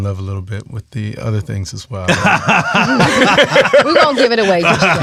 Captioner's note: laughs